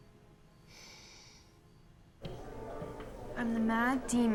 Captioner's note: sighs